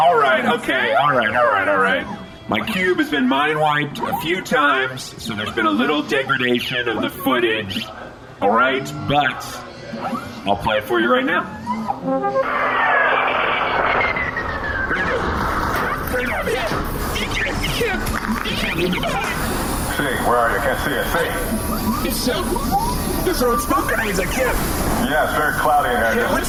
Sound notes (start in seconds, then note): 12.4 playback start sound; 17.1 sound of sirens, explosions